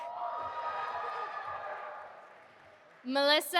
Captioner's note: audience applauding